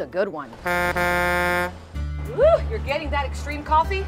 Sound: horn honking

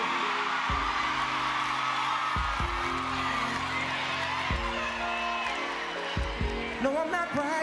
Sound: screams

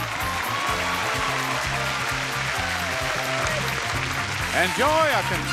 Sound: audience applauding

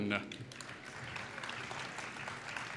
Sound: applause

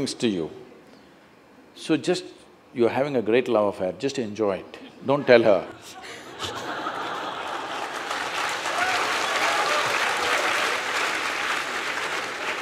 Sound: laughter and Applauds

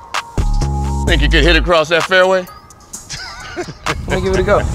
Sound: laughs

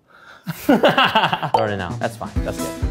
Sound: laughing

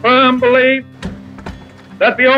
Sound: door closes

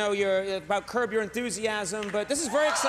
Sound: audience cheers

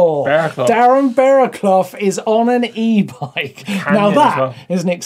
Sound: laughs

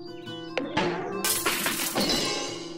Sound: crash!

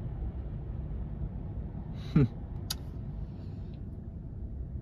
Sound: chuckles, clicks tongue

